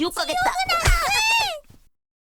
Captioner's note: screams